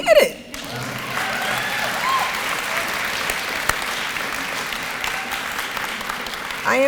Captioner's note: applause and cheering